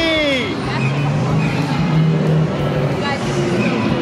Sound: dinosaurs growling

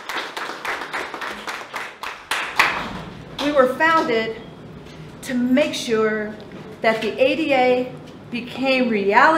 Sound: applause

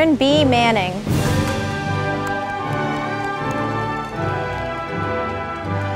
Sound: audience applauding

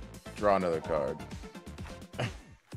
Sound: laugh

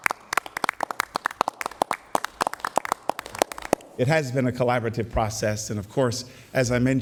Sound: applauding

